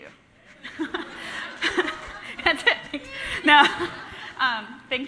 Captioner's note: laughs